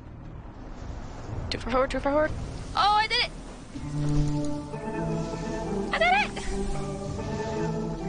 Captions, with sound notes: too far forward too far forward--oH I DID IT *spams the 'chirp' sounds in game* i did it!